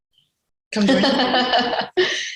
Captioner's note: laughs